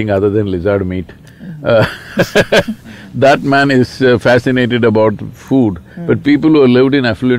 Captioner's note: laughs